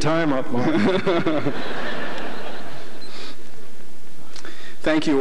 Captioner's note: laughter